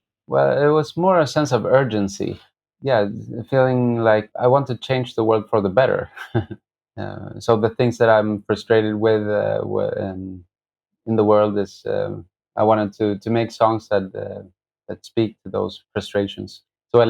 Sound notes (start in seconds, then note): 6.1 laughter